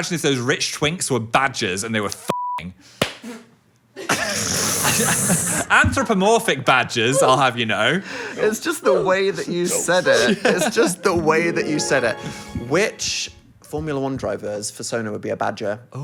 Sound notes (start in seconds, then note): 2.3 beep; 4.8 laughs